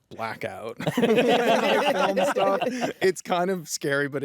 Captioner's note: laughter